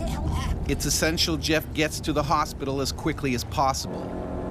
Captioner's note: voiceover